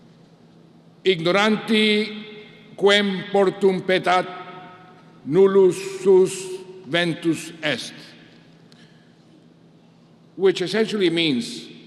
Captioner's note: speaking latin